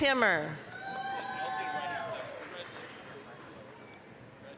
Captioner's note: applause, cheering